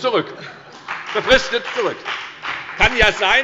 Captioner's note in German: Heiterkeit und Beifall bei der FDP